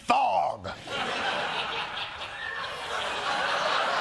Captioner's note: laughter